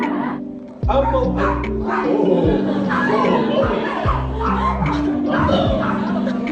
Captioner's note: barks